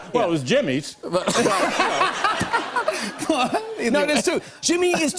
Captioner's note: laughs